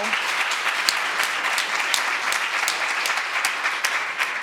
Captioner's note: audience applauding